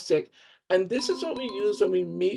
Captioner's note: bell chiming